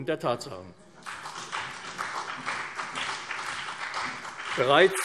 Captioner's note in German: Beifall CDU und BÜNDNIS 90/DIE GRÜNEN